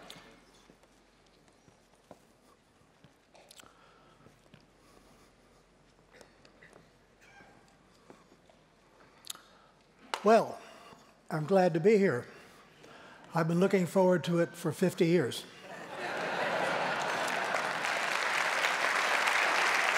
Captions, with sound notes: Well, I'm glad to be here. I've been looking forward to it for 50 years. [LAUGHTER] [APPLAUSE]